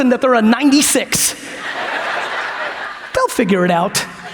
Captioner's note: audience laughs